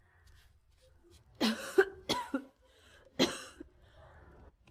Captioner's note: coughs